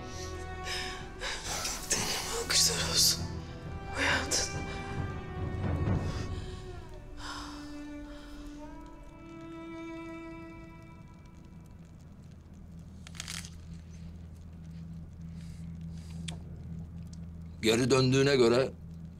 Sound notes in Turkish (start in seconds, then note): 11.3 Ateş çıtırtısı sesleri; 11.3 Isırma sesi; 14.4 Çiğneme sesleri